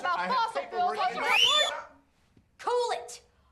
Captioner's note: whistles